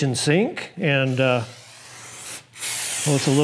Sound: spraying

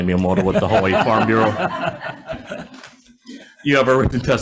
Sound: everybody laughs

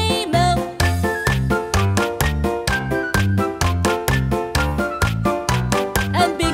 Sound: clap

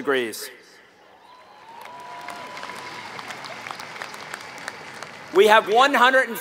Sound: applause

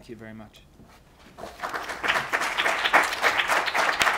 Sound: applause

